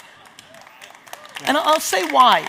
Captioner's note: audience cheers